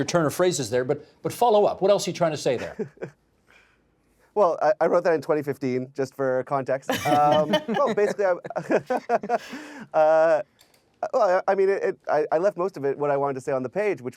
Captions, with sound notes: at your turn of phrases there, but follow up. What else are you trying to say there? Well, I wrote that in 2015, just for context. (All laughing) Basically-- (Laughing) Uh, I mean, I left most of it, what I wanted to say,